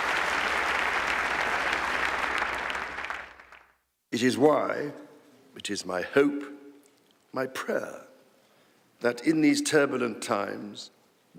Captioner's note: applause